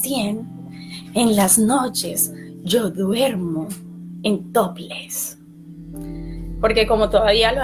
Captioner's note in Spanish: susurrando